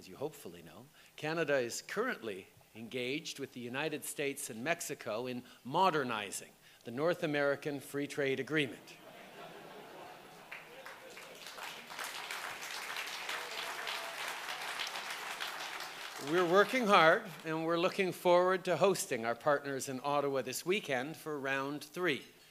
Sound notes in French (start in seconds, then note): 9.0 Rires et applaudissements